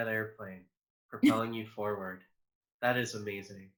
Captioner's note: giggles